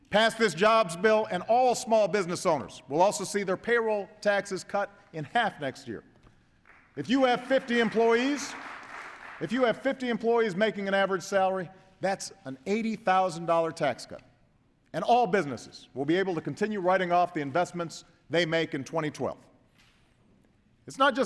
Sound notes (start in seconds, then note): 6.6 applause